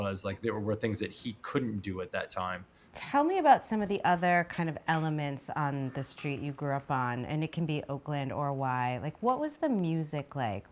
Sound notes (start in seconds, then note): none